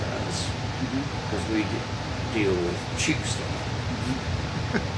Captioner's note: murmurs